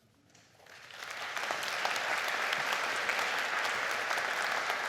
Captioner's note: audience applauds